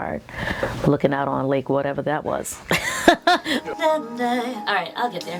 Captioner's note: laughs